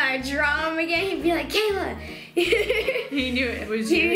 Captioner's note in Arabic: يضحك